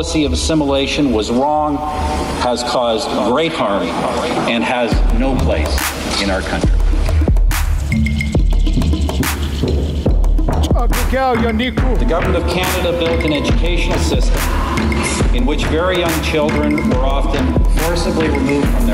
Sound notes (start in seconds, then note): 8.1 foreign vocalizing; 8.1 rhythmic music